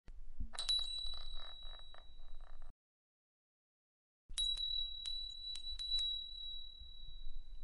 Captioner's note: small bell ringing three times